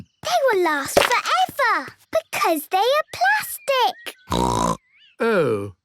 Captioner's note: snorting